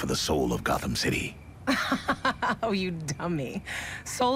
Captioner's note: laughs